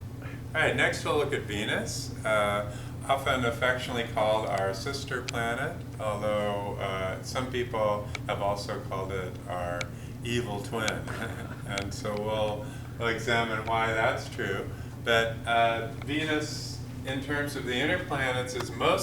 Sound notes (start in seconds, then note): 10.9 chuckles